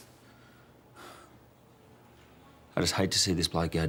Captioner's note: sighs